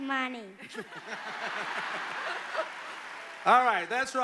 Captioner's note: laughter